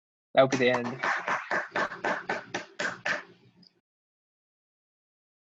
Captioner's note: audience claps